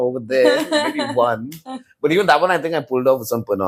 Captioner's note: laughs